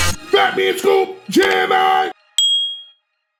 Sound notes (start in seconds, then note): 2.4 bell dinging